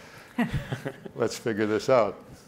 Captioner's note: laughing